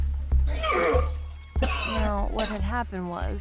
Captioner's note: retching, coughing